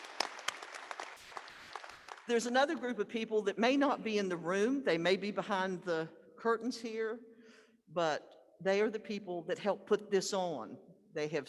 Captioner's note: applause